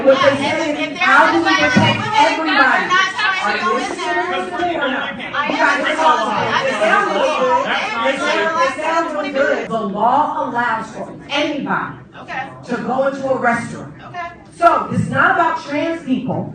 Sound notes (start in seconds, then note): 4.5 incoherent yelling